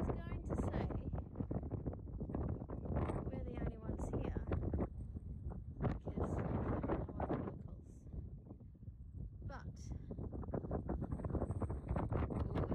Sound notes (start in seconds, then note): 5.3 lowered volume wind and voice almost completely drowned out by wind